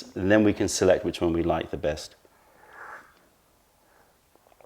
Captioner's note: sips tea